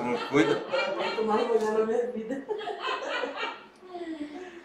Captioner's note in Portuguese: risos